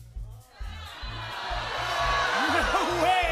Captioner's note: audience shouting "no"